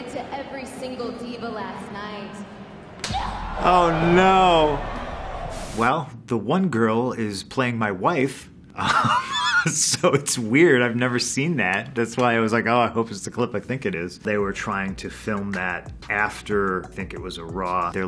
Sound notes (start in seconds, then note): 3.0 slaps face; 8.7 chuckling